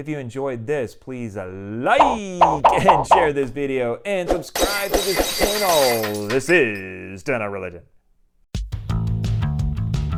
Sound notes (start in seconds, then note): 2.0 popping sounds; 4.6 glass breaking